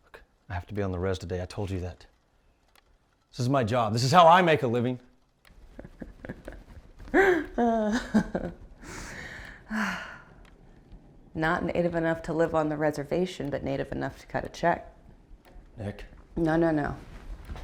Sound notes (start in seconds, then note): 5.6 laughs; 8.8 sighs